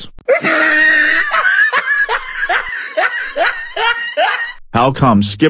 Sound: laugh

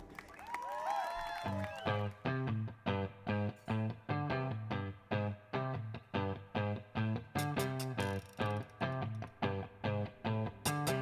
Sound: applause

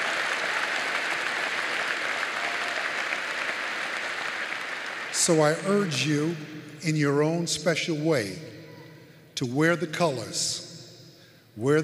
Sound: applause

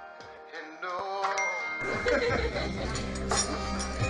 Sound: text message alert; chatter and laughing

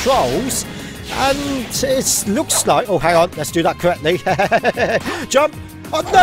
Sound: laughter

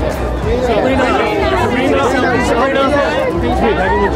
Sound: crowd calling

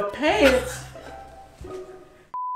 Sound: laughs

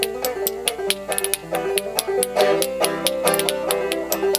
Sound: spoons clacking; upbeat banjo music

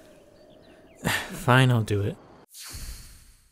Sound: sigh

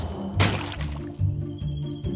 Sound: leaves rustle; quicksand splats

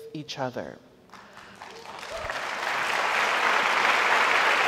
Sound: audience applauds

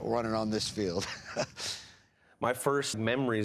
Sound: chuckles

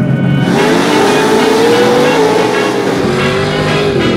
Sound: lively Latin music; engines revving

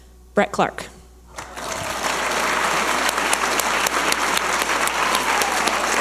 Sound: audience applauding and cheering

